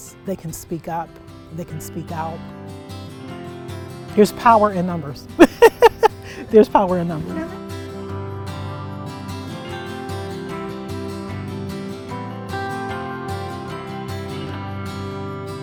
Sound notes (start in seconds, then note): 5.4 laughs; 8.9 uplifting guitar music